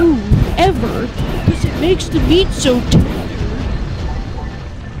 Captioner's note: mocking